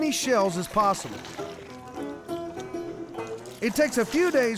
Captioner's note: pouring, splashing